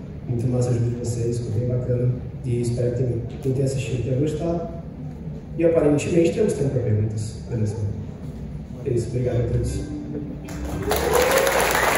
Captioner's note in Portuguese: Muitos Aplausos